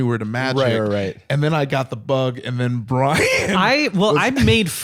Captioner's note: laughs